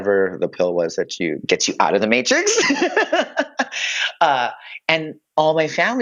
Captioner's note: laughs